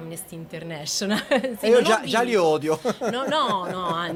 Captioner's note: laugh